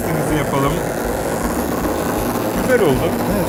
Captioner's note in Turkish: Elektrikli motor sesi